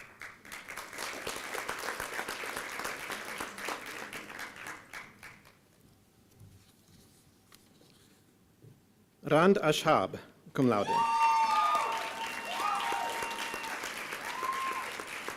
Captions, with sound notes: (applause) Rhad Ashad Cumlaude. (applause and cheering)